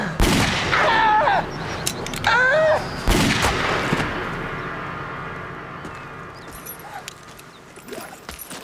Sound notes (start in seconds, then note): 0.1 fires gun; 2.2 groaning in pain; 3.0 fires gun